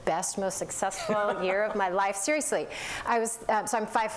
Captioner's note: laughter